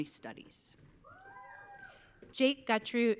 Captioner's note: audience cheering